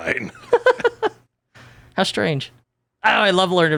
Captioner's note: laughs